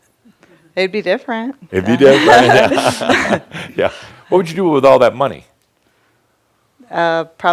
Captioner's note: they chuckle